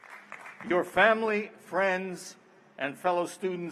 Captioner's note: applause